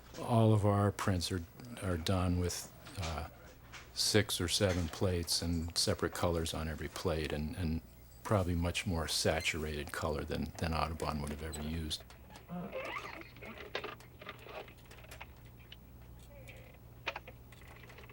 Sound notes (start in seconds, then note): 17.5 gears creaking